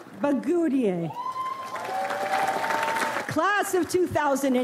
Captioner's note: audience applauds